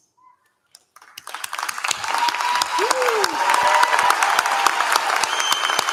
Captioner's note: applause